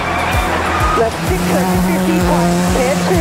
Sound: car engine revs

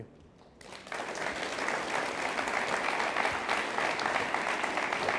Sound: audience applauds

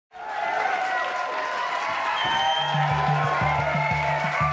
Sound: crowd cheering

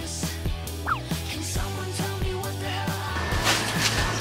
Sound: rushing to food

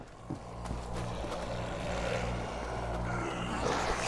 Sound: eating noises

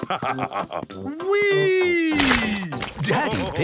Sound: splashes

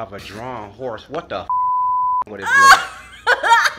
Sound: beeps; all laughing

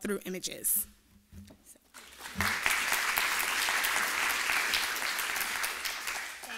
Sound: applause

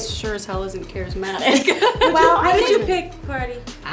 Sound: laughs

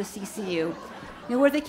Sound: audience laughs

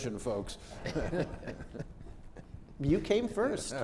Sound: laughter

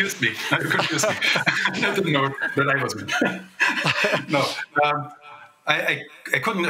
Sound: laughter

